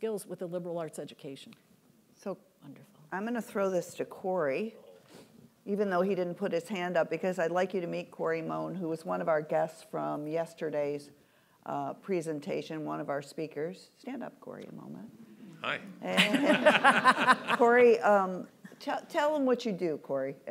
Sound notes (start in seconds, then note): 16.1 laughs